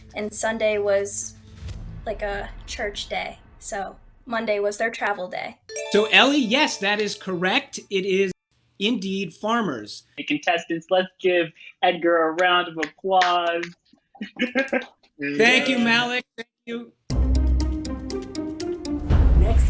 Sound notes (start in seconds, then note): 13.2 clapping; 17.1 dramatic music